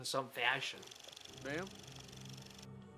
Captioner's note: reel flickering; eerie music